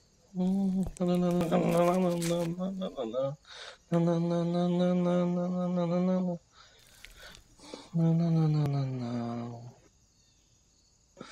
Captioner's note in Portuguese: cantarolando